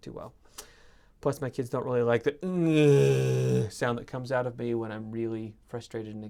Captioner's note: zombie noise